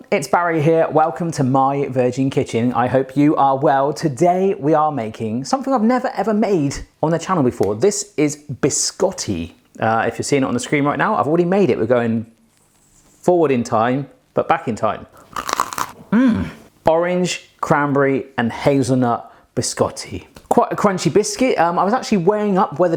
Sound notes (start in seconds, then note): 15.2 crunch